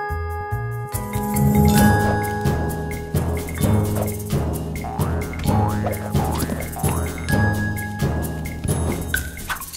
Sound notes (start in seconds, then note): 4.7 bounce bounce